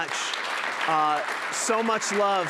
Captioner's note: applause